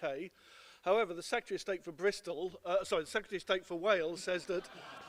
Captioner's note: laughter